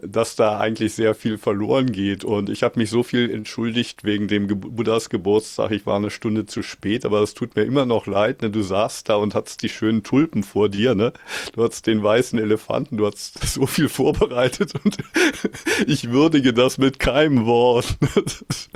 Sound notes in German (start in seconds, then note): 13.9 gelächter